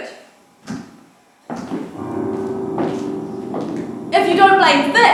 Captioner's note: ominous footsteps